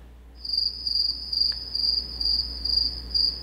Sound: crickets chirping

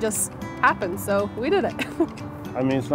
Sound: chuckles

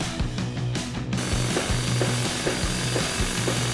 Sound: drilling

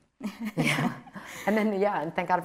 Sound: chuckles

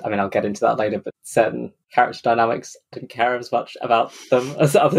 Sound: laughing

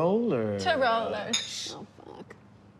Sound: glasses clink

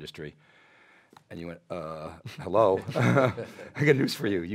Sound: laughs

